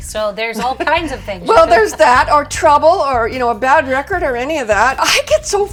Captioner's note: giggle